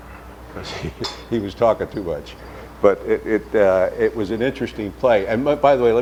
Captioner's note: laughs